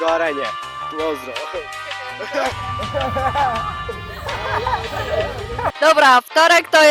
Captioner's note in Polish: Śmiech